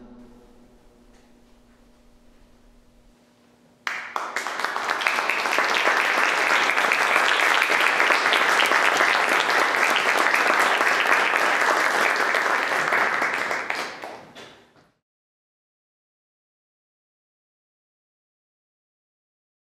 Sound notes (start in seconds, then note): 0.0 music stops; 3.8 audience applause